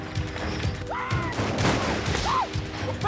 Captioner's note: gunshots